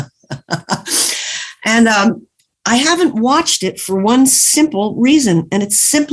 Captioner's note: laughs